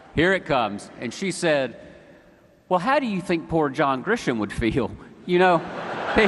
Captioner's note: laughter